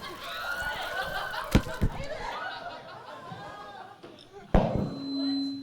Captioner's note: crowd exclaiming; mic screeching